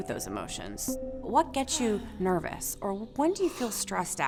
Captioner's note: hums; gasps